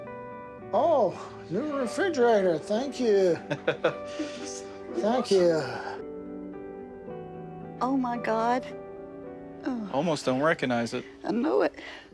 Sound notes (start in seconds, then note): 3.3 laughing; 5.8 gentle music